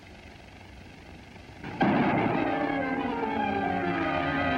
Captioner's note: gunshot